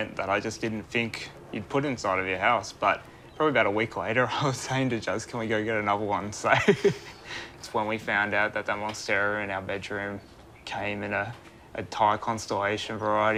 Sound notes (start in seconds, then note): 6.5 laughs